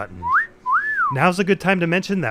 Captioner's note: whistle